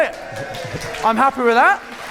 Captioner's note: audience clapping